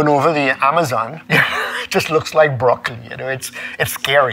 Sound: laughing

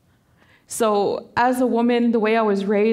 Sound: voice quavering

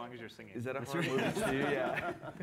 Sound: laughter

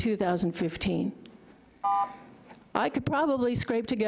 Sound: beep

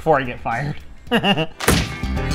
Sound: laughs

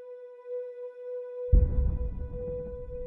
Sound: faint boom

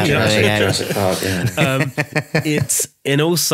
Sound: laughing

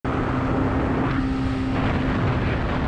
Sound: motorcycle noises

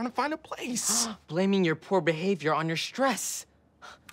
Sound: gasps; exhales sharply

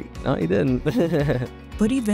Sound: laughs

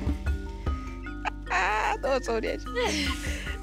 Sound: speaking foreign language; laughs; speaking foreign language

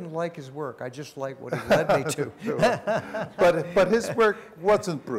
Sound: laughter

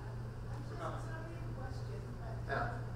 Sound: voiceover

